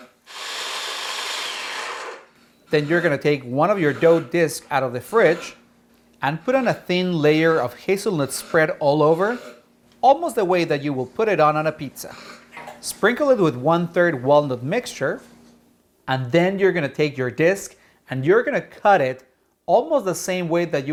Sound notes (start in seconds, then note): 0.0 mixer whirring